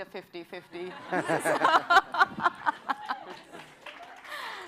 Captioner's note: laughter